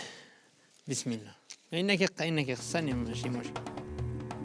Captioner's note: Arabic spoken audio